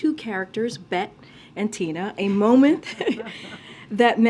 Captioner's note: laughs